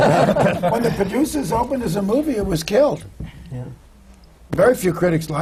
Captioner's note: laughter